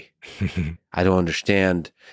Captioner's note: laughs